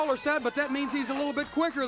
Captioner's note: crowd chatter